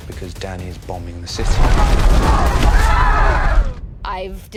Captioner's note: rumbling; screaming